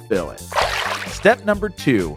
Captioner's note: water splashes